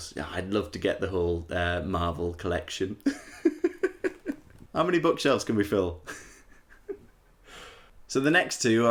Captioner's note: laughter